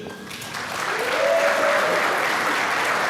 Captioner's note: applause